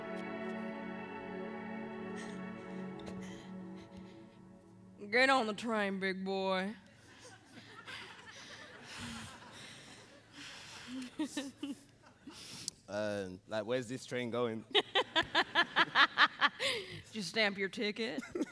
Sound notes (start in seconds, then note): 14.7 Connie laughs